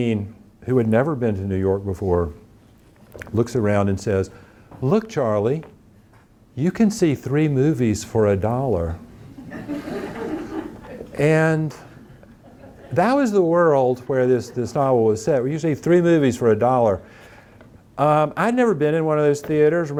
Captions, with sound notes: who had never been to New York before, looks around and says, Look Charlie, you can see three movies for a dollar. (audience laughing) And that was the world where this novel was set, where you see three movies for a dollar. I'd never been in one of those theaters.